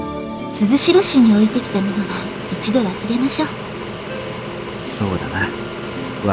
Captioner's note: rain